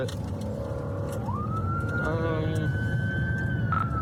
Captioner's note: siren wailing